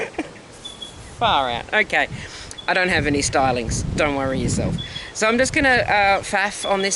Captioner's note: laugh